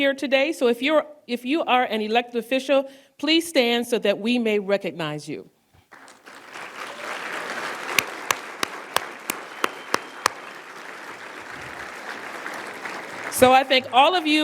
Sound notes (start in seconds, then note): 10.2 applause